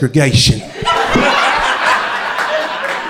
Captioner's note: crowd laughter